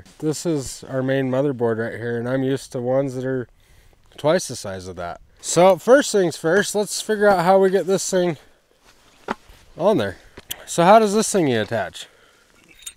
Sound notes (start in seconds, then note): 9.5 hand smacking